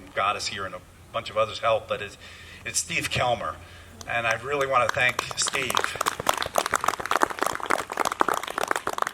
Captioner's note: applause